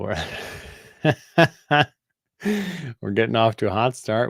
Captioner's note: laughter